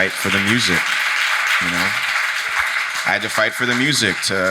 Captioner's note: audience applauding